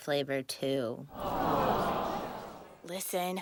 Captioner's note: audience sighs